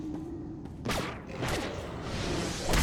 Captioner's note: exploding